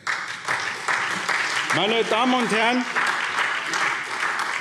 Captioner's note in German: Beifall SPD